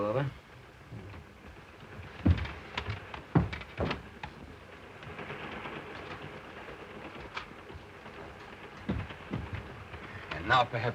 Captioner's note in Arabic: صوت خشخشة القطار